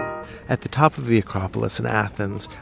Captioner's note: voiceover